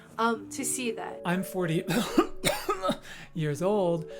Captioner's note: coughing